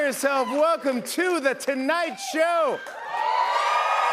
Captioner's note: cheers and applause